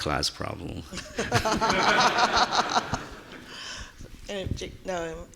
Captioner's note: audience laughing